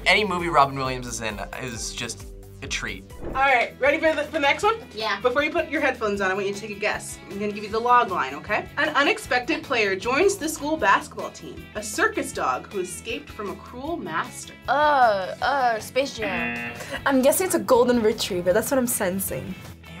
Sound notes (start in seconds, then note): 16.2 buzzer